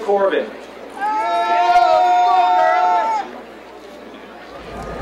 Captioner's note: crowd cheering